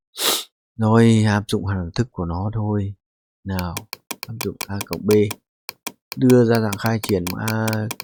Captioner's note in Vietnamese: khịt mũi